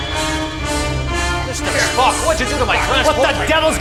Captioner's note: angry rants